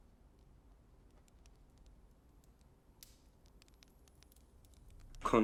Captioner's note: fire crackling